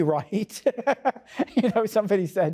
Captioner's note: laughs